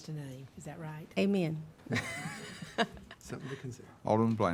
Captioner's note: laughs